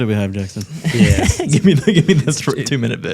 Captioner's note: chuckling